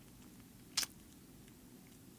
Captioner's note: clicks tongue